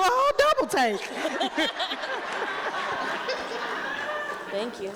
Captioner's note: people laughing